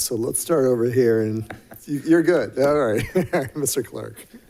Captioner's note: people chuckling